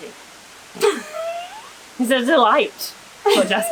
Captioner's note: laughter